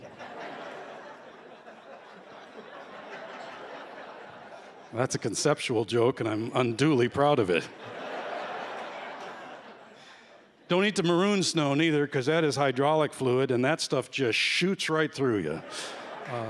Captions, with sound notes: [laughter] [louder laughter] That's a conceptual joke, and I'm unduly proud of it. [laughter] Don't eat the maroon snow neither because that is hydraulic fluid and that stuff just shoots right through you. [laughter] Um...